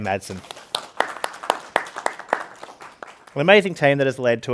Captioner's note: participants clapping